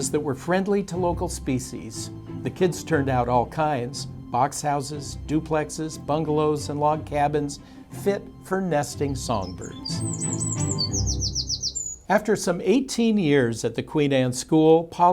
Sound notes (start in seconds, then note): 8.3 birds chirping